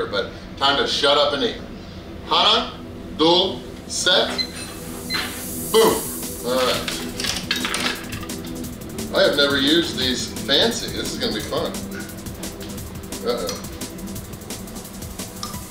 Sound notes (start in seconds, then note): 2.3 speaks in foreign language; 4.3 timer beeps; 6.6 chopsticks clattering